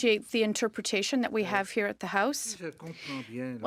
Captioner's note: speaking French